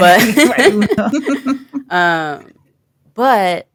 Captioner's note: chuckle